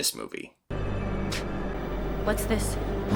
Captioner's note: photos brush lightly against ground